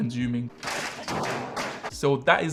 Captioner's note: object clattering